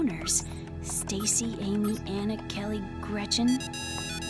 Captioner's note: computer beeping